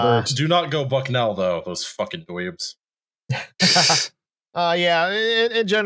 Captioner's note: laughter